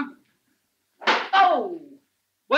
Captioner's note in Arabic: صفعة على اللوح